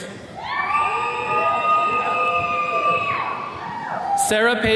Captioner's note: attendees cheering